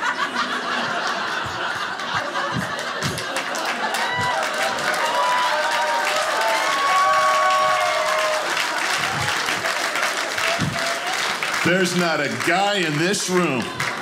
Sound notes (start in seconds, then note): 0.0 audience laughing; 4.9 audience clapping